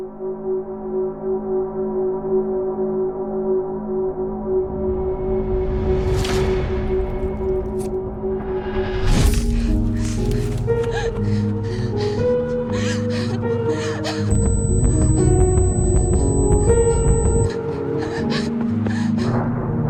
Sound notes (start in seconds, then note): 0.3 suspenseful music; 10.8 crying; 15.5 dramatic music